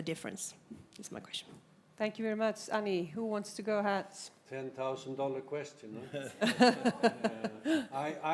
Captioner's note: laughter